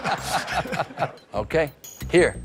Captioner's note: laughter